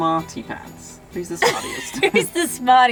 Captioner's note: laughing